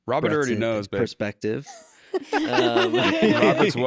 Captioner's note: laughter